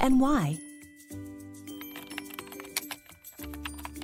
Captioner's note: keyboard typing